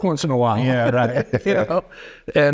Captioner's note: chuckling